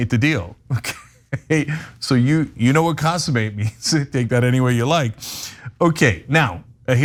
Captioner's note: laugh